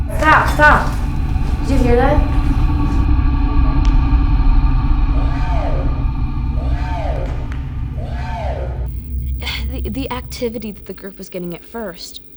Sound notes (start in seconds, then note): 5.3 distorted Voice